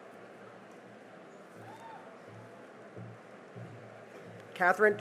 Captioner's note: cheering